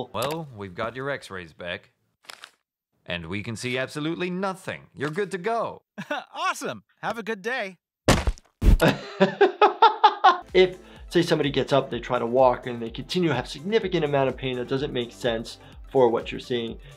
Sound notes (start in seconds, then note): 8.8 laughs